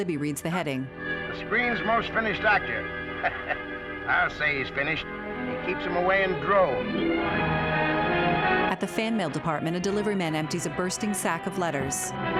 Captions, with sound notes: Ha! The screen's most finished actor. -[Artie chuckling] -I'll say he's finished. He keeps them away in droves. [dramatic music]